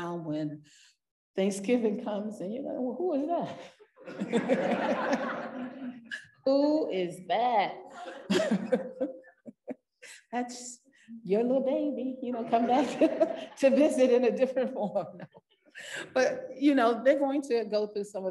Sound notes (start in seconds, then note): 4.0 parents laughing; 8.0 laughing